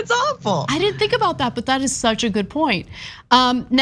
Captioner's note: laugh